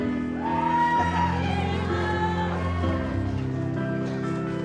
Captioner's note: audience applauds